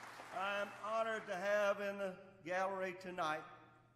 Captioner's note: applause